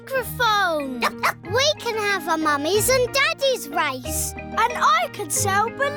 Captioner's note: barks